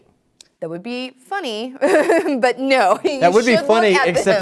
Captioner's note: laughs